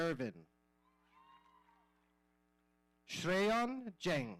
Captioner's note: audience cheering